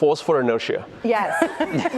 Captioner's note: laughter